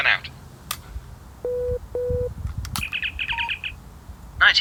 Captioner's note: communicator beeps